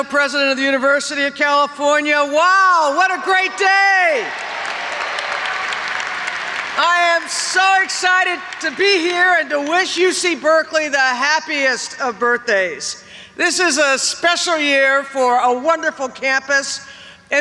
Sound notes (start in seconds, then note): 4.2 audience applauds